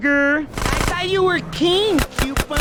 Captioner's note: shots